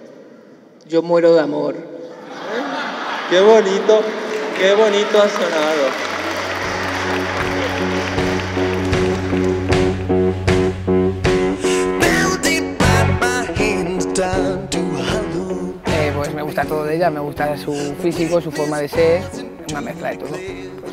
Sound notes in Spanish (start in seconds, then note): 2.0 Risas; 6.8 Aplausos